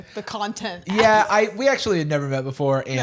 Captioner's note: laughs